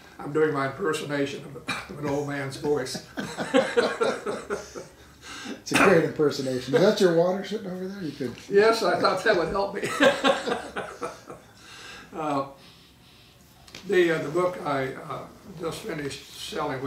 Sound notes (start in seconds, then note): 3.0 laughing; 9.8 laughing